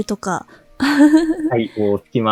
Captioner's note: chuckles